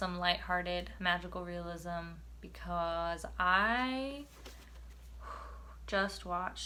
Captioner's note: exhales